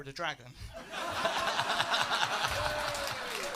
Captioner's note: laughter